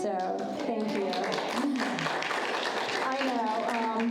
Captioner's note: audience applauds